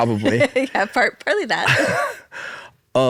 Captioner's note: laughs